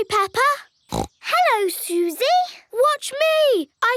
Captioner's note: snorts